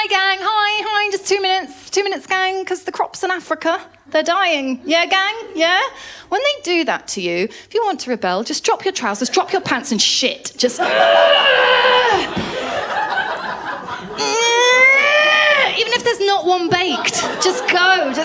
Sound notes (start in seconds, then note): 12.2 laughter; 12.2 straining; 14.3 straining